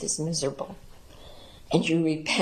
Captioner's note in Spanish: hablan en inglés